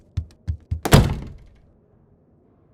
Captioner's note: door slam